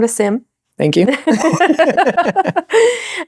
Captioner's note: both laughing